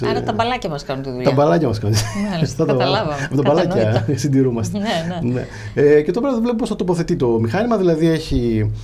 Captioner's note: laughs